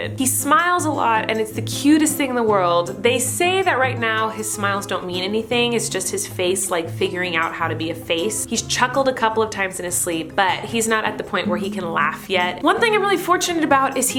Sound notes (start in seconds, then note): none